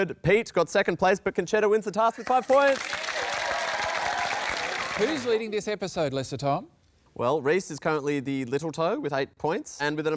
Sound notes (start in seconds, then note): 2.2 cheering, applause